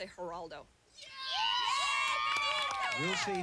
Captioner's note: cheers